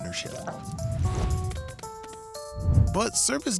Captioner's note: whooshing sounds